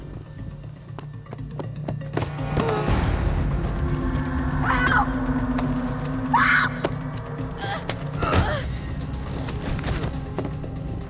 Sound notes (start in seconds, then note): 6.2 screaming; 7.4 grunting